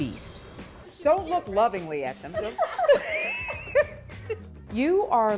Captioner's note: both laughing